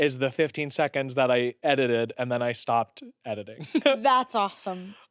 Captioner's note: laughs